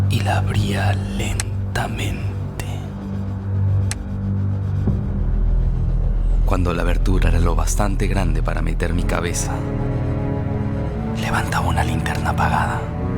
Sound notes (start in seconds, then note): 3.7 slight creaking